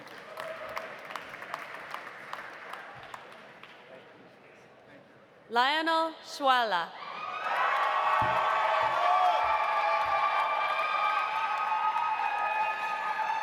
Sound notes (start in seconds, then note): 0.0 audience applauding; 7.1 audience cheering; 7.3 audience applauding